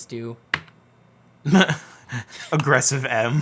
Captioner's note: key clicks; laughs